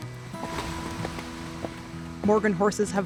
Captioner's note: horse hooves thudding